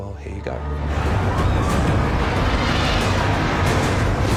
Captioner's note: screaming; drogon roars